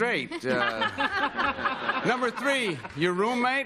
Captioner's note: laughter